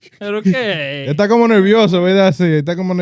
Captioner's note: speaking In Foreign Language